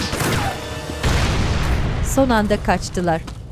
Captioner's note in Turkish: Patlama sesi